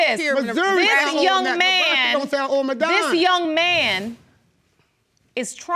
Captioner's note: yelling simultaneously